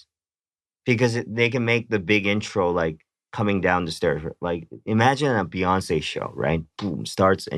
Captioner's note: boom